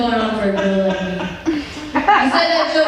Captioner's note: laughter